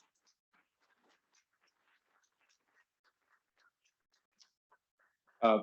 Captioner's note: muffled attendees applauding